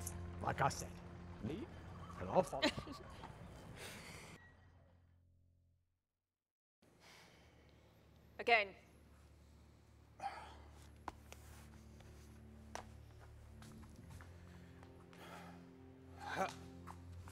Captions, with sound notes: - Like I said. Lead, and I'll follow. - Again. - (Sighs)